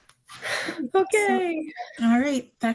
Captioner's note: laughs